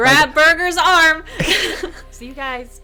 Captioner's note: laughing